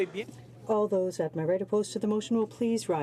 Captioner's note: speaking in french